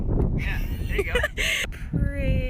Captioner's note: laughs